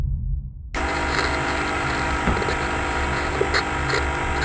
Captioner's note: TV static buzzes